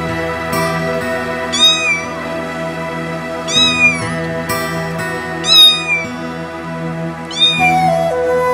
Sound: kitten Link crying

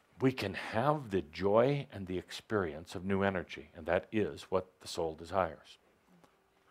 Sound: none

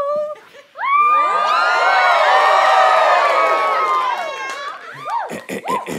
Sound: audience cheers; clears throat

